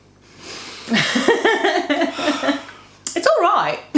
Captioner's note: laughs